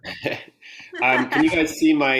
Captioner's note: both laugh